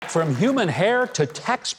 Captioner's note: audience applause's